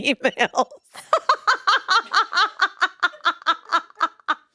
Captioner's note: both laughing